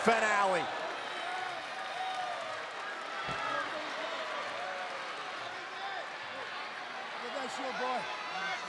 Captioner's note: applause